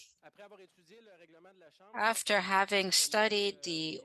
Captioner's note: speaking French